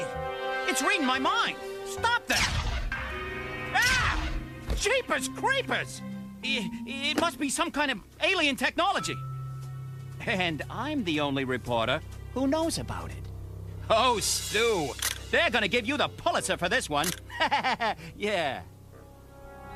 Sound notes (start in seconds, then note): 17.2 laughter